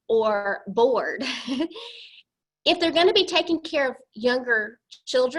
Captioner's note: laughter